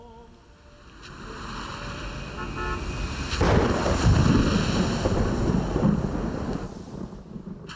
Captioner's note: horns honking; thunder crashing